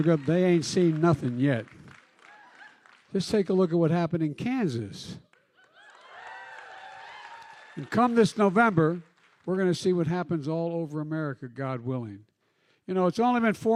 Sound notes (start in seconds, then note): 5.6 cheering